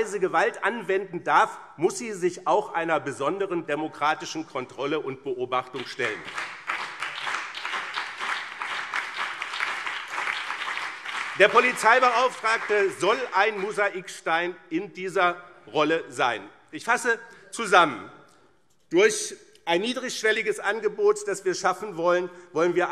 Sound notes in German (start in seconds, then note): 5.7 Beifall BÜNDNIS 90/DIE GRÜNEN und CDU